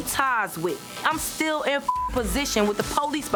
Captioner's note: beep